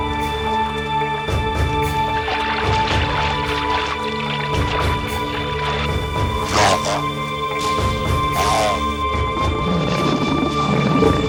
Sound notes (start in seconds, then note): 5.8 growls; 9.0 roars